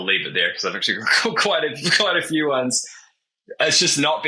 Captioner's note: chuckling